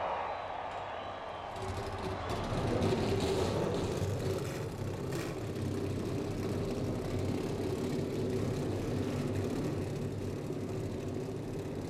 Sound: cheers & applause

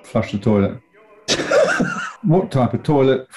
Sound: laughing

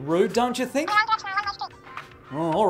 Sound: cartoonish phone speech

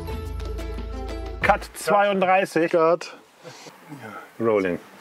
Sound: German speaking

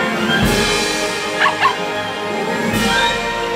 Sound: barking

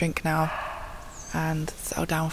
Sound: muntjac barking

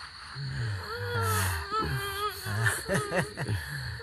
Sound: girl crying

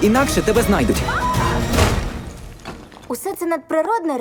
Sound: screams

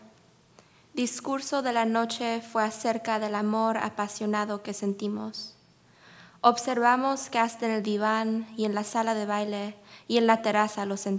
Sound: speaking spanish

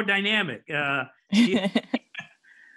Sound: laughs

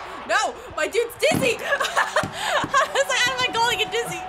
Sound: laughs

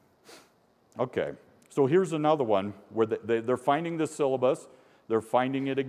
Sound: sniffing

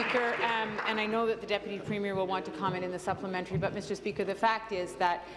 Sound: applause

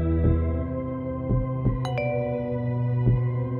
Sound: door bell rings

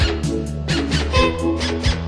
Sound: honk

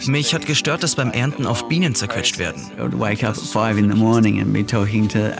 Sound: Translator speaks in German

